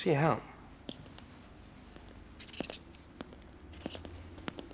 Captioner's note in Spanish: pasos